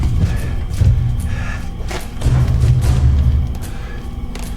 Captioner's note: Bannon panting